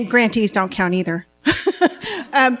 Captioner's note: laughing